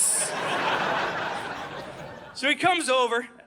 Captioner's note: audience laughing